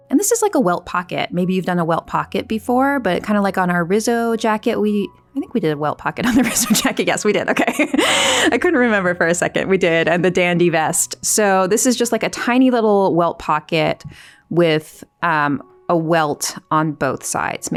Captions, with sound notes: And this is like a welt pocket. Maybe you've done a welt pocket before, but kind of like on our Rizzo jacket, I think we did a welt pocket on the jacket. Yes, we did. Okay. (laughs) I couldn't remember for a second, we did. And the Dandy Vest. So this is just like a tiny little welt pocket with a welt on both sides.